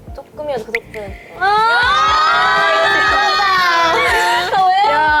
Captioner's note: tears